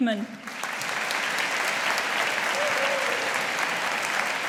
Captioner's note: audience applauding